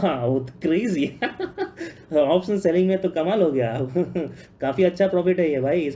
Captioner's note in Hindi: हंसी